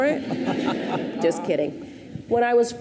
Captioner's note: audience laughs